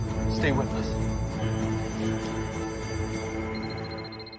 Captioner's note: alarm bell ringing; phone ringing